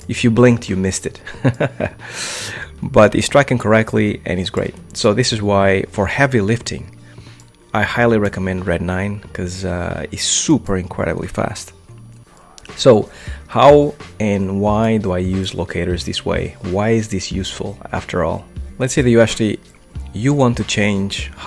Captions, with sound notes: If you blinked, you missed it. (laughs loudly) But he's working correctly and he's great. So this is why for heavy lifting, I highly recommend Red9 because it's super incredibly fast. So, how and why do I use locators this way? Why is this useful after all? Let's say that you actually, you want to change